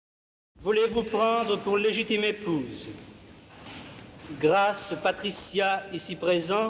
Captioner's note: marriage officiant speaking French